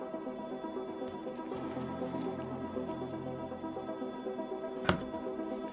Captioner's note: plastic crinkling